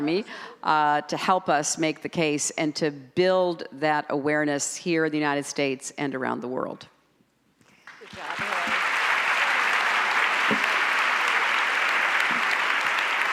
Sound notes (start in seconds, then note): 7.8 audience applauds